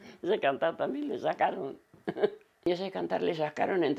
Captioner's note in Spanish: Ríe